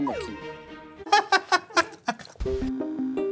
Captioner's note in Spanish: risas